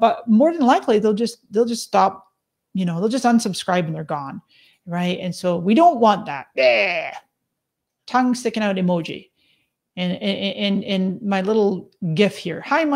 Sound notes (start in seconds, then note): 6.5 imitates retching